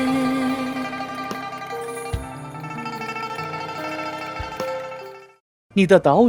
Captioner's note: bell Ringing